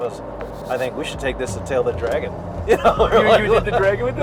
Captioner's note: laughs